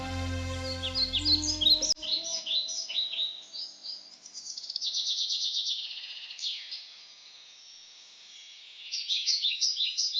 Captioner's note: soothing music; birds chirping